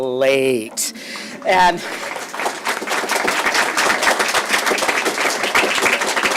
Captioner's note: applause